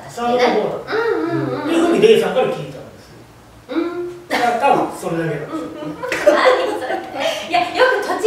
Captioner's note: laughs